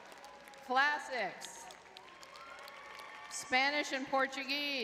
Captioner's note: crowd clapping; crowd cheering